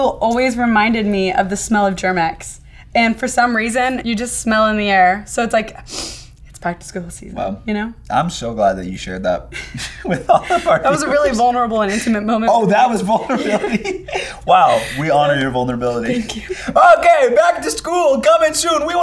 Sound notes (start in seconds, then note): 5.8 sniffing; 13.0 both laughing